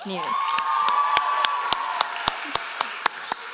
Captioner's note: applause